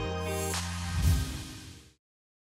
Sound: whoosh

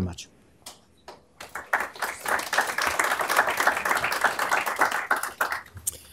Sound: applause

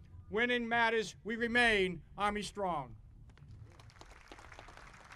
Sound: audience applauding

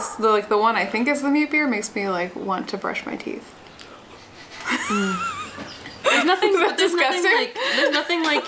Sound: laughs

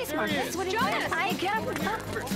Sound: overlapping chatter

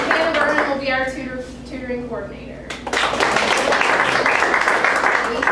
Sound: applause

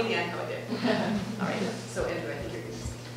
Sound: class laughing

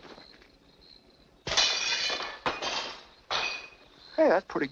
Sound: shattering glass

